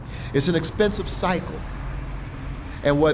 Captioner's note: truck engine humming